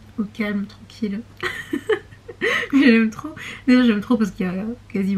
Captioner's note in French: rires